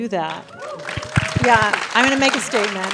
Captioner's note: crowd cheering & applause